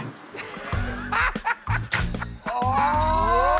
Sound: laughter

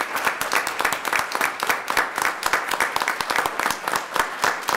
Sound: audience applauding

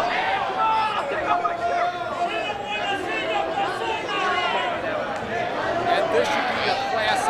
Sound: indistinct chatter

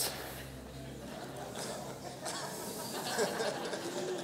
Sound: laughter

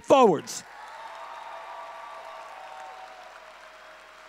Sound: audience cheering

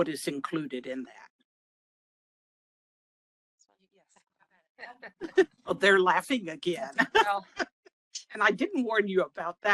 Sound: laughing

